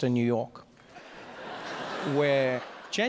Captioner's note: audience laughs